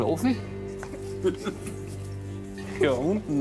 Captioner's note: laughter